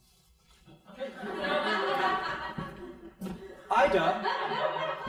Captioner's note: crowd laughing